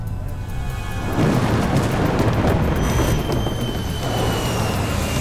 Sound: thunder rumbling

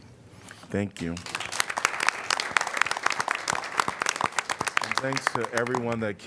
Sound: applause

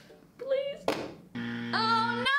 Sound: buzzer buzzing

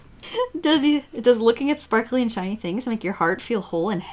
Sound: laughs

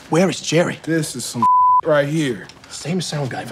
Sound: beep

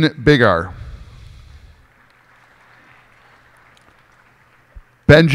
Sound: cheers and applause

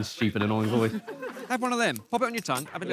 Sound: laughing

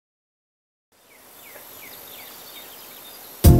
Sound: birds chirp happily

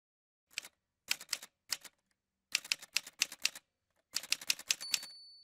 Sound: typewriter sounds

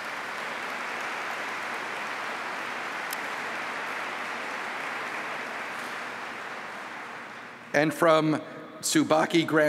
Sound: applause

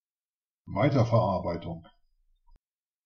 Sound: fast Pronunciation

